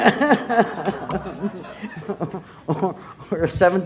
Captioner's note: laughter